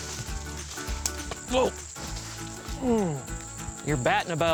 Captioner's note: grunts